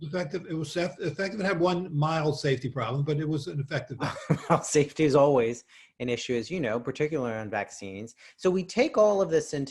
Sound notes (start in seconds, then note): 3.6 laughs